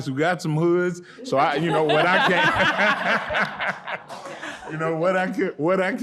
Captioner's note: audience laughing